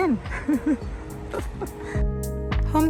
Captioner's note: laughs